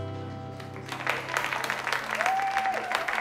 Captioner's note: clapping and cheering